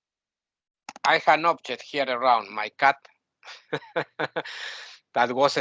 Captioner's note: laughing